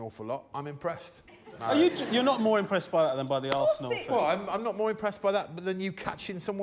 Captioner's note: laughter